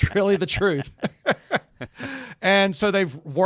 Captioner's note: laughing continues